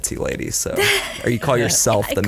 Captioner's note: laughs